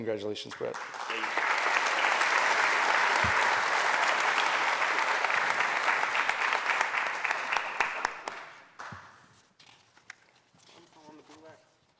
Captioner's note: applause